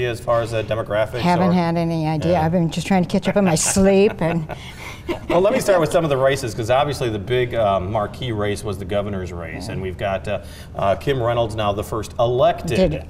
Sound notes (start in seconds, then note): 3.2 chuckling; 3.2 laughing